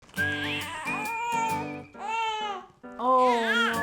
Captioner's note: baby crying